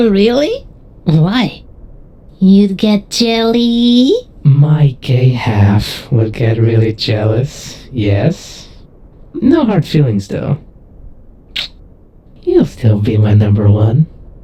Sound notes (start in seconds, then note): 11.5 Vixen kiss noise